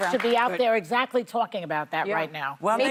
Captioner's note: applause